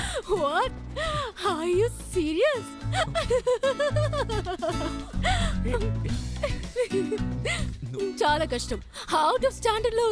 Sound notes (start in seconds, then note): 2.9 giggling